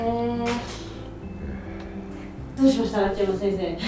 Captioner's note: sigh